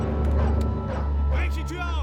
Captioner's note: dog barking; speaking german